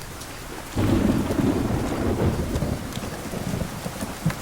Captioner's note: thunder rumbling